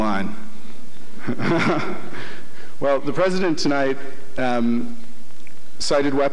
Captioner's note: chuckles